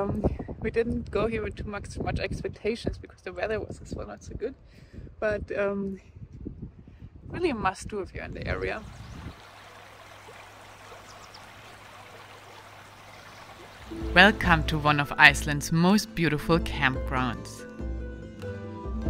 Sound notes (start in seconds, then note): 8.6 water splashing; 8.7 birds chirping